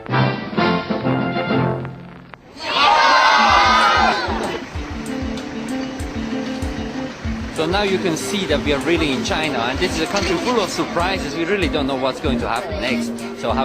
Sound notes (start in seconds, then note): 2.6 speaking chinese